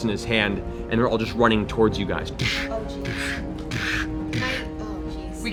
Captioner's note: heavy footfalls